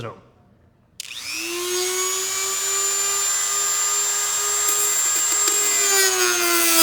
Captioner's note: drill buzzing